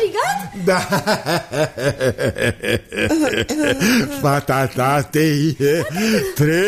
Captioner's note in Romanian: Râsete